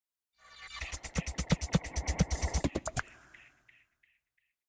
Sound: electronic sounds

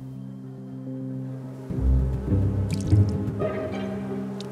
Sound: insects buzzing

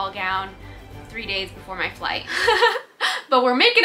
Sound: chuckles

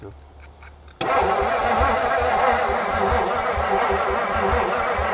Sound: vehicle engine humming

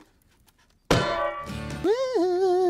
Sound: bonk

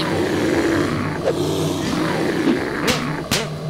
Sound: bear growling

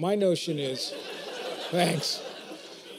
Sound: laughter

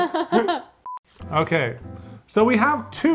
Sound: laughs; high pitched tone

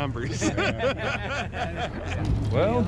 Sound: laughing

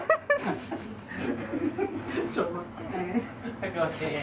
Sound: laughter

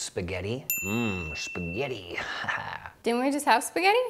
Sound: chuckles

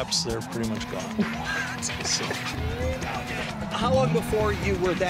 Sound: laughs

